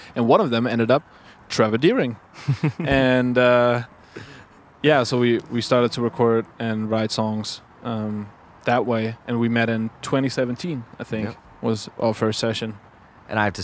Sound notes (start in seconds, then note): 2.3 laughs